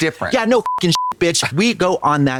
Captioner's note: beep